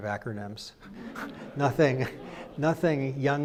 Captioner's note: crowd laughs